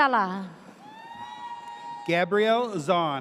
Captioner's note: audience cheers